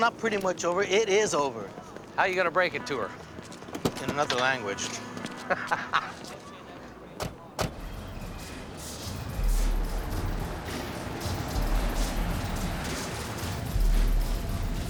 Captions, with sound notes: No, not pretty much over-- itisover. How you gonna break it to her? In another language. (laughs) (percussion track blaring)